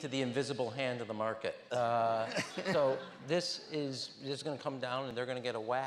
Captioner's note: laughter